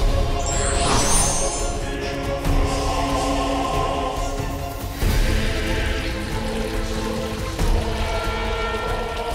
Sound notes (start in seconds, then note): 5.4 liquid pouring